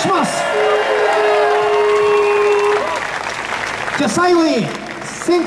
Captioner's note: audience applauds